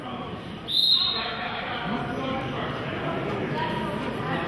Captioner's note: whistle blows